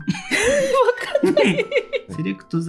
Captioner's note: laughs